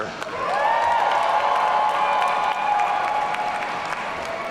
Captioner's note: audience cheering